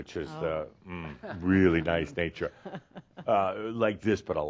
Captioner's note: she chuckles